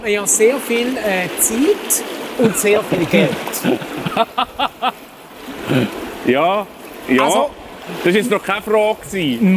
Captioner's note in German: Lacht